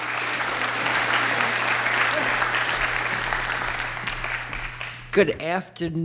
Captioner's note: audience clapping